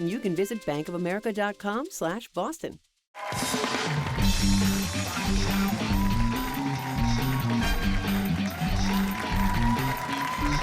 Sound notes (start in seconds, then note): 5.2 cheers and applause